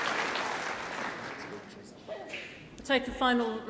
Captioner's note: applause